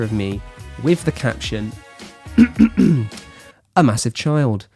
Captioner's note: clears throat